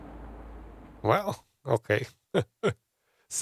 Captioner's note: laughs